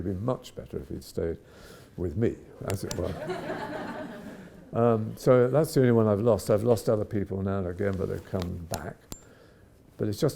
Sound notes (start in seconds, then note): 3.1 audience laughs